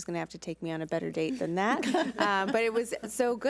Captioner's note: laughs